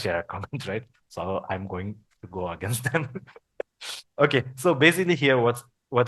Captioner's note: laughters